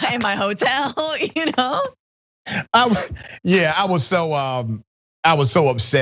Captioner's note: laugh